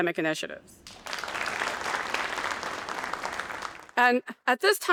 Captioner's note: audience applauding